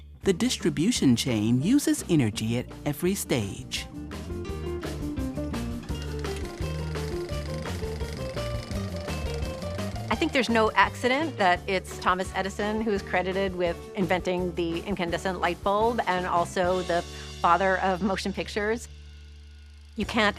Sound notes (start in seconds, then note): 4.2 lively music; 5.8 film reel rattling